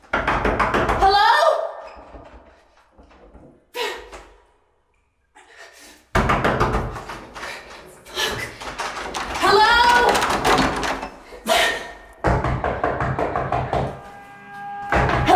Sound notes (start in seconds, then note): 0.1 loud knocking; 6.0 loud knocking; 9.0 door rattling; 12.2 knocking from outside door